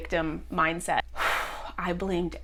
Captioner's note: exhales deeply; whew